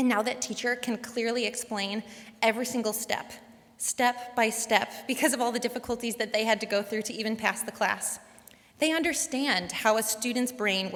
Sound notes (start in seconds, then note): none